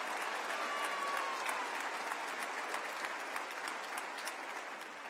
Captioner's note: applause